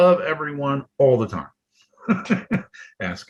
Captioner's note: laughs